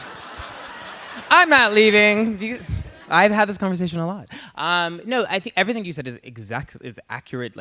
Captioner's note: laughter